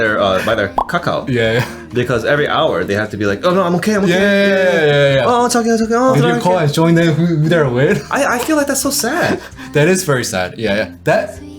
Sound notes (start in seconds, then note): 5.5 Korean